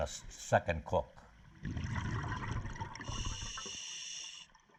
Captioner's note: diver breathing